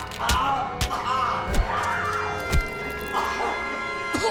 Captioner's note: Abby punches; intruder yells; dramatic music